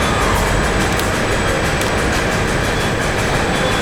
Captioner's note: screaming